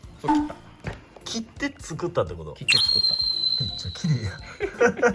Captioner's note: laughs